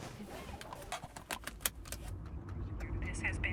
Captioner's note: seatbelt clicking